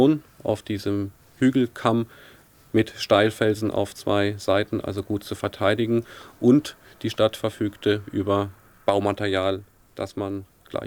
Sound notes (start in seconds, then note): 3.1 continuing to speak German